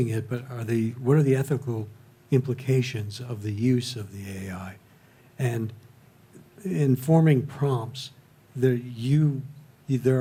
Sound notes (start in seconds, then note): none